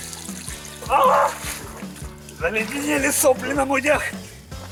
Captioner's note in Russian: Крик